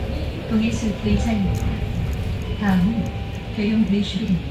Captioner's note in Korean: 하차벨 소리